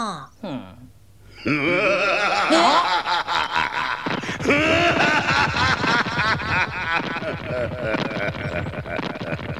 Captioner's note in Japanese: 笑い声